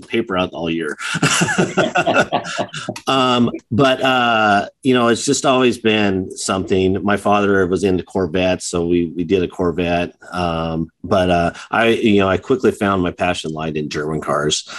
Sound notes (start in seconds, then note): 0.9 chuckles